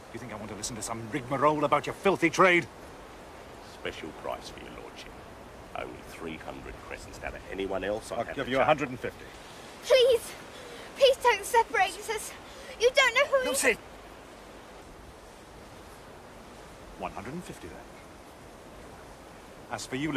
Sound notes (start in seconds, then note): none